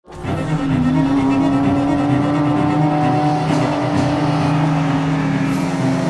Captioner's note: dramatic classical music; car engine revving